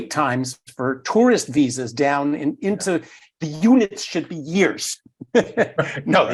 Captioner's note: laugh